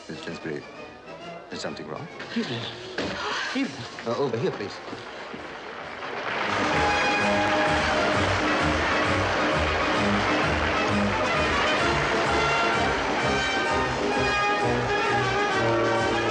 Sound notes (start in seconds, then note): 6.3 audience applauding; 7.4 grand orchestral music